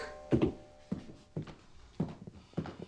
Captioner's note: footsteps